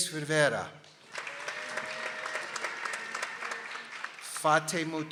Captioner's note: people applauding